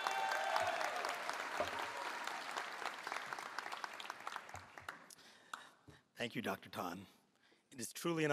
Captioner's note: applause